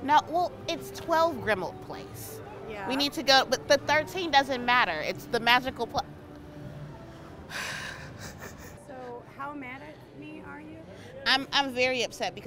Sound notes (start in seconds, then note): 7.7 sighs into laughter